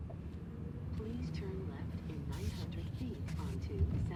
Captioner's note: GPS voice